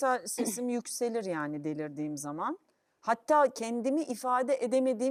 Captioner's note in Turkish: boğazını temizler